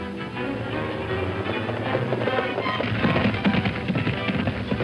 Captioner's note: hooves clopping